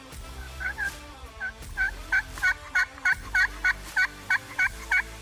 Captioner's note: imitating gobbling